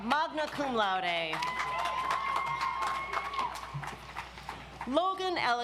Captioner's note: audience applauds